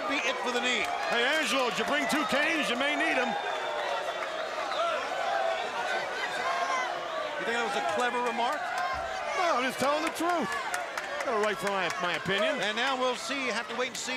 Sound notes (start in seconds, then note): 3.5 crowd cheering